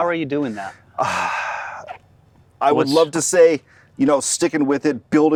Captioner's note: exhales